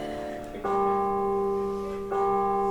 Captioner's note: bong!; bong! Bong!